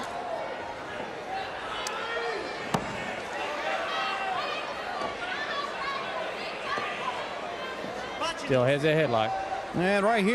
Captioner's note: crowd chatter